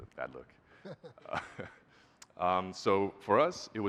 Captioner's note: laughs